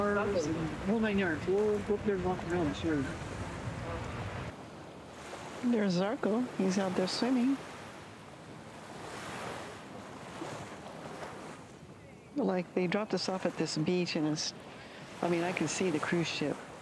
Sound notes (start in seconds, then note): 8.0 wind